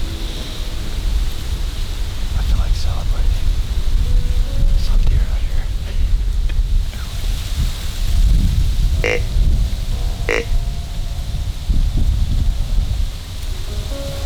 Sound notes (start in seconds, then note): 1.5 sound of wind blowing in corn leaves, music; 8.4 grunt call; 10.8 sound of wind in leaves